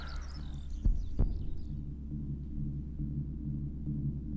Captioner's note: exhalation; heartbeat sounds